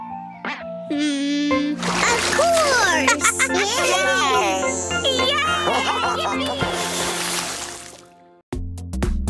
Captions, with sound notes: Of course. [giggles] Yay! [splash]